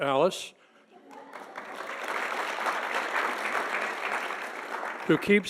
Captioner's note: audience applauding